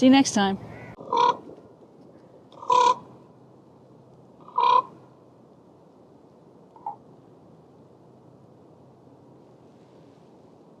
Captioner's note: raven sounds